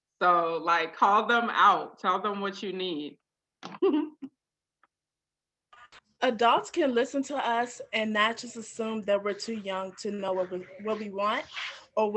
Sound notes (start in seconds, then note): 3.6 giggles